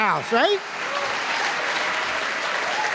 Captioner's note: applause